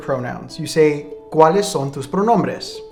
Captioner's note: speaking in a foreign language